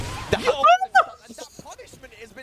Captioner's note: screaming